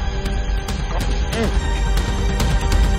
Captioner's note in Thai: เสียงออกแรง